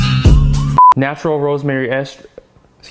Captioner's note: beeping